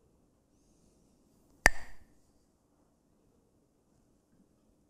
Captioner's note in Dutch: klakt met stokjes